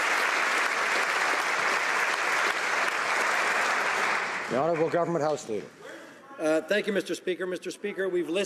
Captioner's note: some Applause